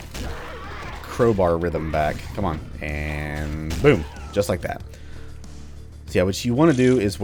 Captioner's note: thwack